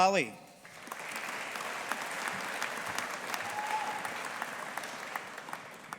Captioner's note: audience applauding